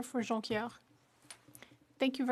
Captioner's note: speaking French